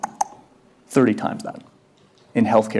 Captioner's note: clicks tongues